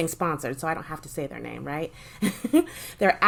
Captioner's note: giggles